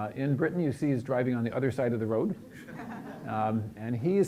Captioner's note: chuckling